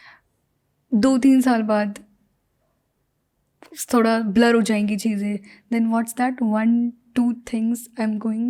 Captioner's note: speaks in Hindi